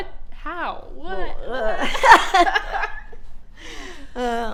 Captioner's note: laughing